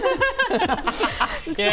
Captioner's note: proud laughter